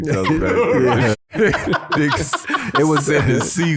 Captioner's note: everybody laughing